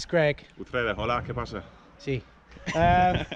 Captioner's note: speaking Spanish